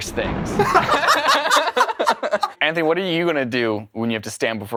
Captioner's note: laughter